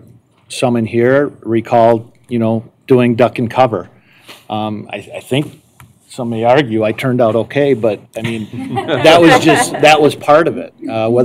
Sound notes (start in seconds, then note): 8.2 laughter